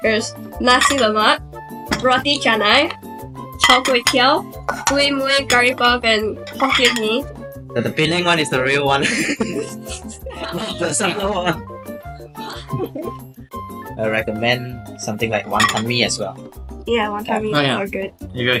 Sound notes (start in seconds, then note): 9.0 exasperated laughing; 9.0 laughing; 12.4 muffled laughing